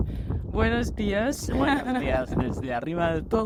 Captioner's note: spanish